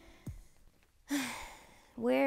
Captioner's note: sighing